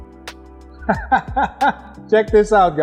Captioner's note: laughing